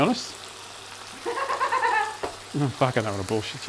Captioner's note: laugh